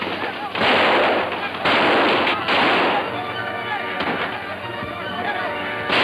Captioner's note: guns roaring; dramatic music